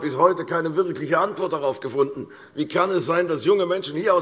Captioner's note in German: none